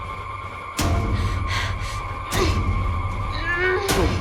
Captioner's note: tense music; panicked breathing, struggling